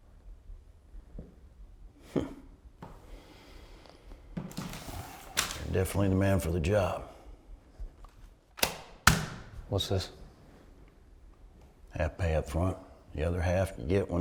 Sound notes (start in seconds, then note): 4.6 envelope crinkling; 8.5 hand tapping